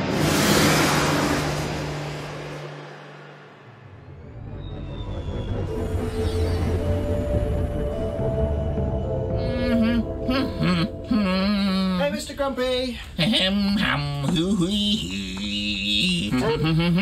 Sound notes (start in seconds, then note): 0.3 epic music continues; 4.2 soft melodic music; 4.2 spaceship rumbling; 9.3 Mr. Grumpy humming